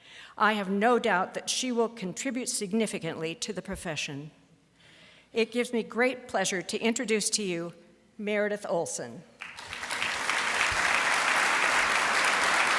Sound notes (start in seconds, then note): 9.4 applause